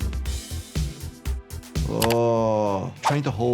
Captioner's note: keyboard clacking